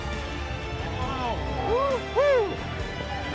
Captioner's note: cheers